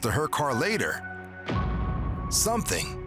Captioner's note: dramatic sound